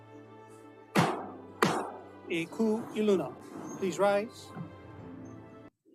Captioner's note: gavel bangs twice